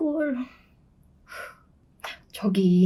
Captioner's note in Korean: 심호흡